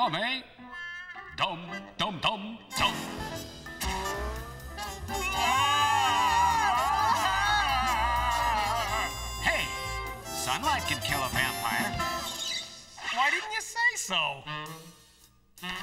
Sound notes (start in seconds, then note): 5.2 applause